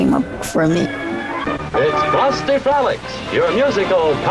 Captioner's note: soundbite of tv show, "frosty frolics"